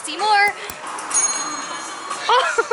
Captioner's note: A bell in the kitchen dings; laughter